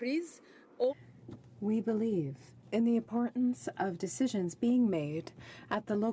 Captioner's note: speaking in french